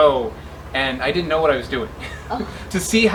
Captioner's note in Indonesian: tertawa